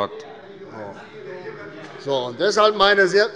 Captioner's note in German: Zurufe von CDU und SPD